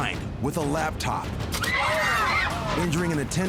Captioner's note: woman screams